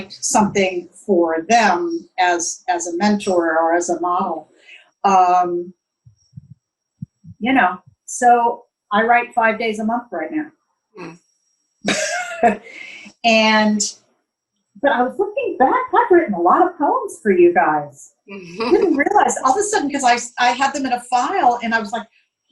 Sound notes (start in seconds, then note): 13.2 laughs